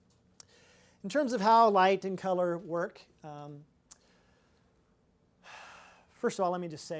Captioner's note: sighs